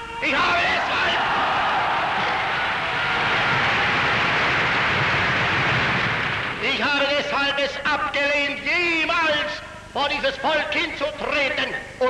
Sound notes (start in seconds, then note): 0.2 cheering